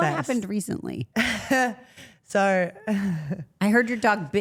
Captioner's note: laughs